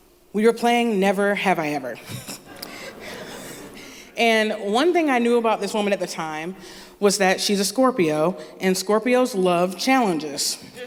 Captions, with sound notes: We were playing "Never Have I Ever." (Laughter) And one thing I knew about this woman at the time was that she's a Scorpio, and Scorpios love challenges.